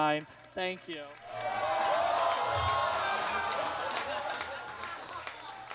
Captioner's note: audience cheers and claps